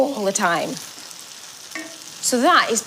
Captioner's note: pan sizzles